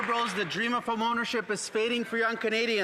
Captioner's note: some Applause